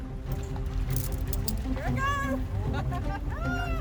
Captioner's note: laughing